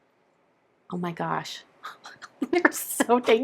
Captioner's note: laughing